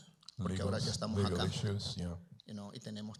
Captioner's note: Spanish language; Spanish language